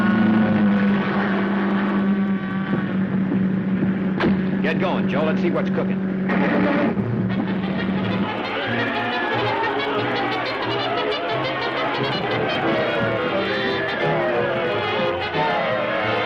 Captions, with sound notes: - Get going, Joel, let's see what's cooking. (engine rumbling) (light dramatic music) (crowd yelling)